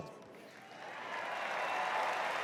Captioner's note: cheers and applause